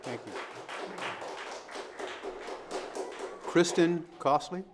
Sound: audience applauding

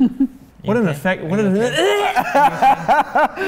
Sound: gagging noise

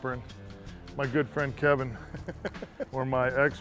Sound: laughter

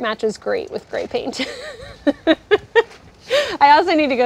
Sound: laughs

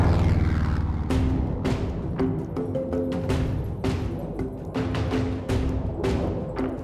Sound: jet engines

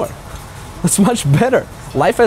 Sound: chuckles

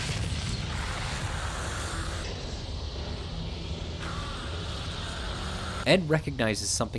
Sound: winds howl; growls

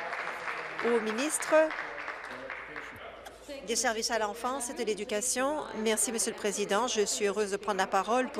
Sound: applause

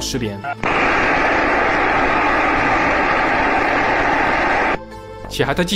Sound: statics noises from winds

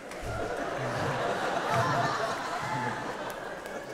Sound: audience laughing

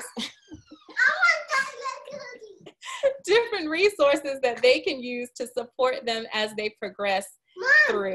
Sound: laughing

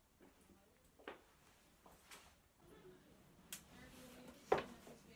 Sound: footsteps receding

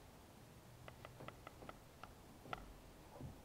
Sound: floorboards creak

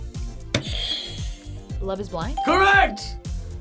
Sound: buzzer rings

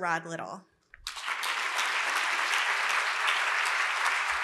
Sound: applause

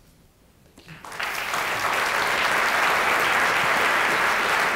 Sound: applause

